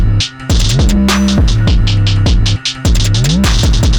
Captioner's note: none